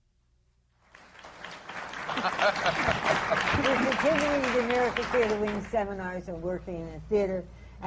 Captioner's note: applause